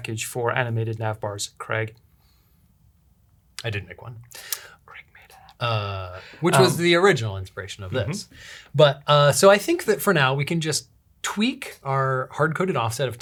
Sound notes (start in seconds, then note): 5.3 whispering